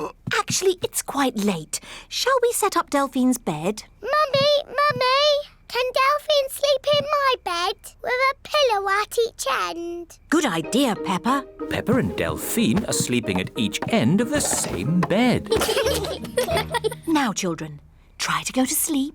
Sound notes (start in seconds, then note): 15.1 both giggle